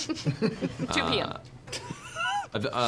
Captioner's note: laughs